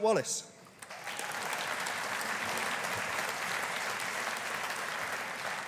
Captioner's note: audience applauding